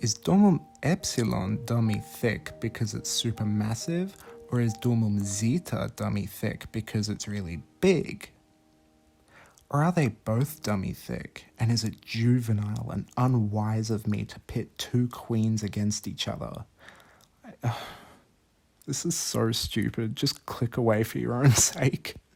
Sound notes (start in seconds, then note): 17.6 sigh; 21.8 chuckling